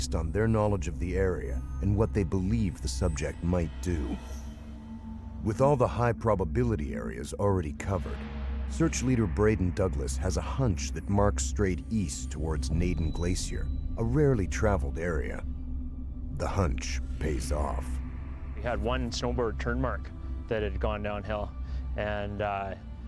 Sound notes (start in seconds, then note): 3.8 voiceover